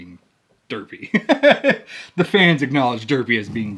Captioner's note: laughs